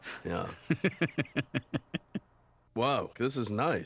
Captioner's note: laughing; laughs